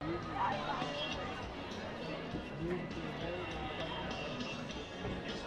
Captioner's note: chatter